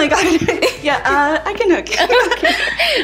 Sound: giggling

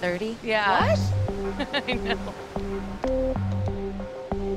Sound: chuckles; soft synth music

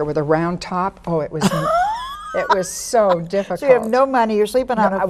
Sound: laughs

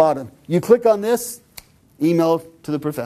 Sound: snap

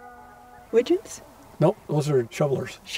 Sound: voiceover

